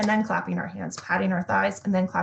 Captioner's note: thighs patting